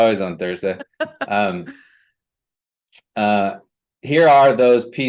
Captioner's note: laughter